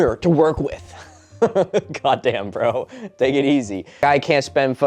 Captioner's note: laughing